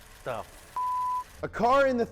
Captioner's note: beep